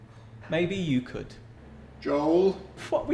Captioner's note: like an angry parent